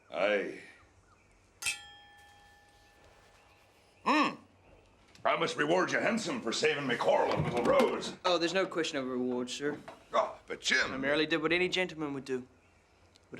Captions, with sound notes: - Aye. (clinking) Mm, I must reward you handsome for saving me Coral and little Rose! - Oh, there's no question of reward, sir. - Oh, but Jim... - I merely did what any gentleman would do.